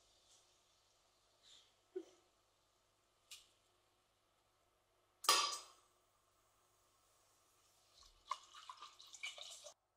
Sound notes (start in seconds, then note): 5.2 snap